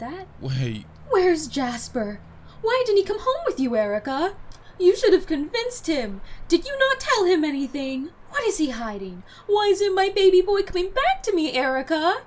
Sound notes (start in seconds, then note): 1.2 mocking her mother